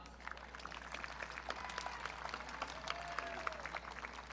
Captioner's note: audience cheering